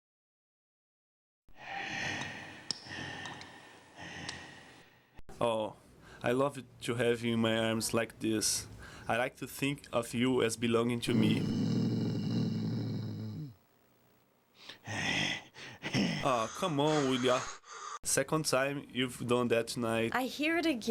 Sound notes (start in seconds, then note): 1.5 Groden breathes heavily; 11.1 Groden growls